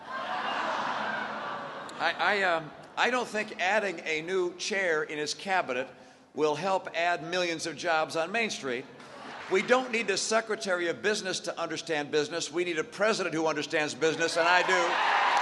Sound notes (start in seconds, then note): 0.4 laughter; 9.0 laughter; 14.4 cheering and applause